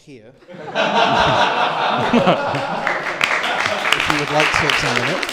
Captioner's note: laughter and applause